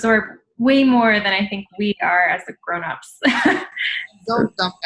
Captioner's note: laughs